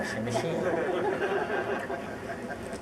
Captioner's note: audience laughs